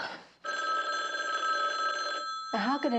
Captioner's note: Telefon çalıyor